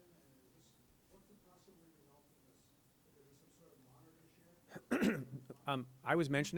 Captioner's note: clears throat